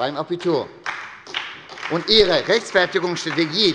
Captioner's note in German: Beifall bei der SPD